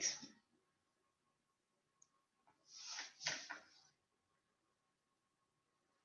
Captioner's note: silence